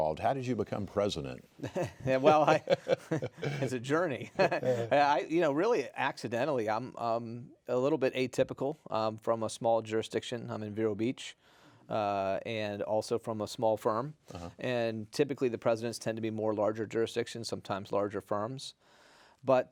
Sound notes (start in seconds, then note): 1.6 chuckling